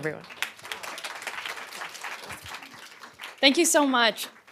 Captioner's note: applause